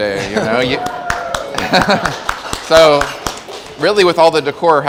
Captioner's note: audience applauding and cheering